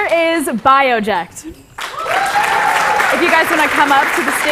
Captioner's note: applause